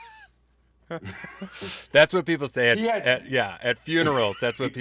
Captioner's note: laughs